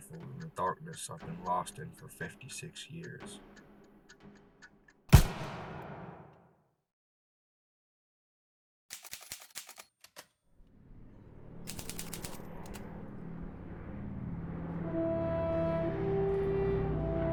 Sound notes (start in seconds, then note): 5.1 gun fires; 5.1 trigger clicks; 9.2 typewriter keys clacking; 14.3 inspiring patriotic music; 17.1 plane engines roar overhead